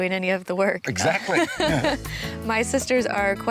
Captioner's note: laughs